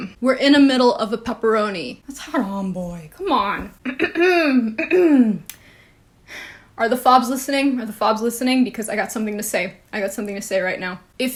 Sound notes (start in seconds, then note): 3.8 clears throat